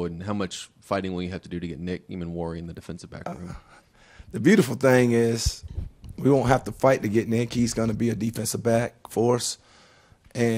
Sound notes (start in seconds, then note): 4.0 chuckles